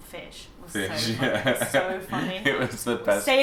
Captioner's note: laughing